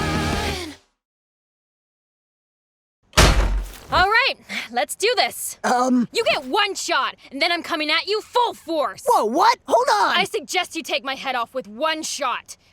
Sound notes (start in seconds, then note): 3.2 angry door opening